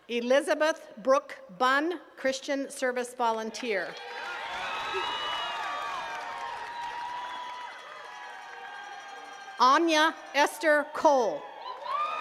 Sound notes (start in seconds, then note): 3.9 attendees cheering and clapping